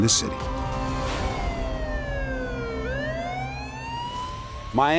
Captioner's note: sirens